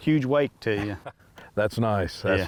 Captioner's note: laughs